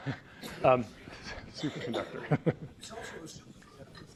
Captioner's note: laughs